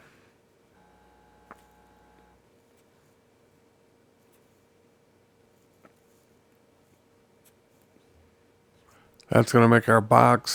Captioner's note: silence